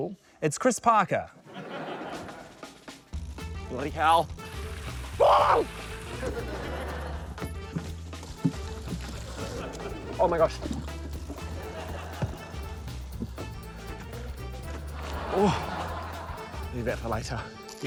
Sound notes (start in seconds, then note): 5.2 yelps; 15.4 grunts